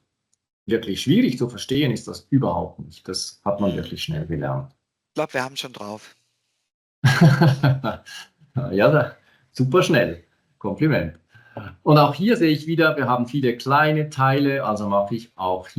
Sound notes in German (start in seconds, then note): 5.2 lachen